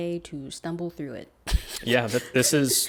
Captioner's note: laughs